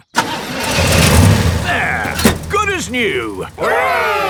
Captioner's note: engine starts